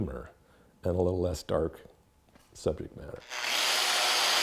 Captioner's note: machine whirring